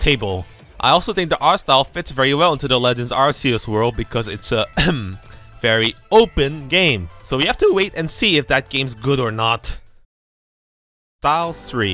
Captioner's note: ahem